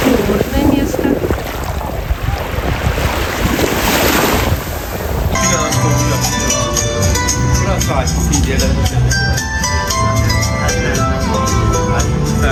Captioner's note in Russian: колокольчик